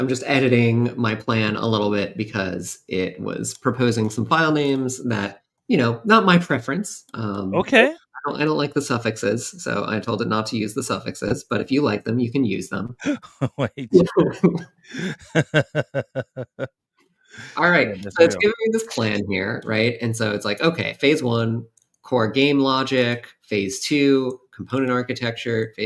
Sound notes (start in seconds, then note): 13.2 laughter